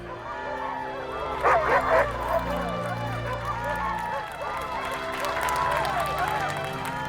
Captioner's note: crowd cheering and clapping; Buck barking